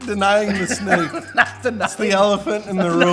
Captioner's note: laughs